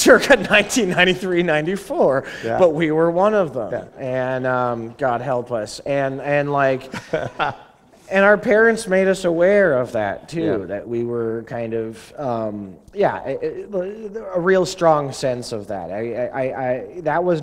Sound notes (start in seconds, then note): 1.1 laughter; 6.9 chuckle